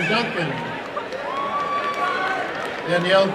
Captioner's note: applause and cheering